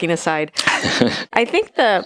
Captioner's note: laughing